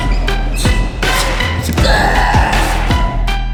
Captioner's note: dramatic music; screaming